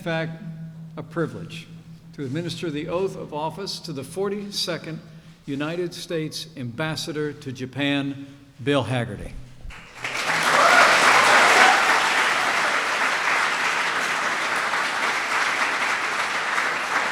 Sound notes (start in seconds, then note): 9.3 applause